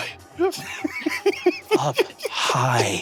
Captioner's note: Lou giggling